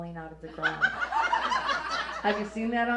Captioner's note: audience laughs